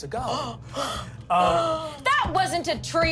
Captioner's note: gasps